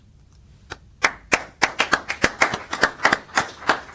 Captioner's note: applause